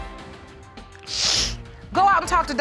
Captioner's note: sniffles